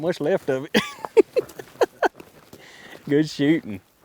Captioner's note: laughing